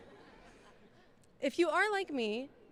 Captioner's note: laughing